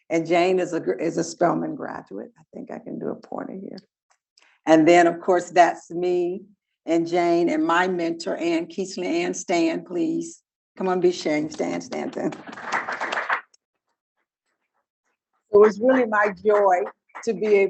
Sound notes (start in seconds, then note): 12.2 audience applauding